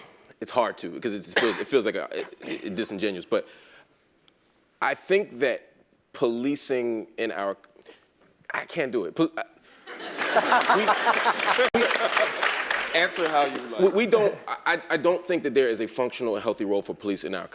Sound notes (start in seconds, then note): 10.0 laugh; 10.2 applause; 11.9 laugh